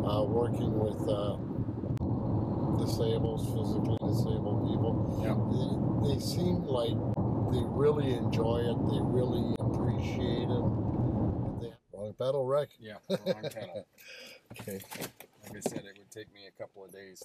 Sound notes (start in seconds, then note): 5.5 tires rumble; 12.9 laughs